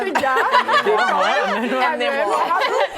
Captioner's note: laughter